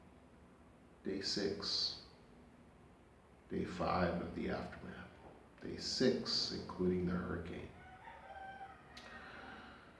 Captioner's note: rooster crowing